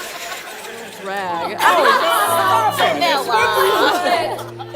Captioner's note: laughter